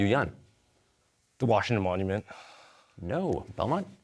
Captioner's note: exhales